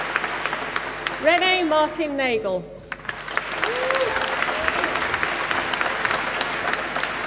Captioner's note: applause